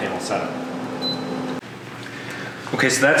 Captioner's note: beep